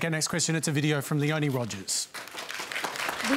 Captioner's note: applause